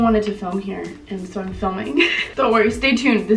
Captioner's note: teehee